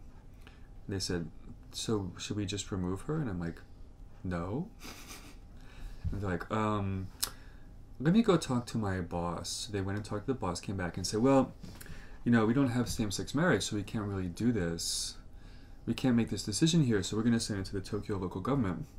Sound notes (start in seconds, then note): 4.8 laughs